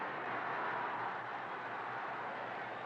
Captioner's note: crowd cheering